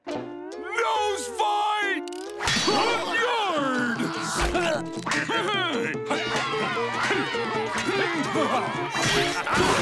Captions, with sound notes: Nose fight! En garde! [grunting] [cheering]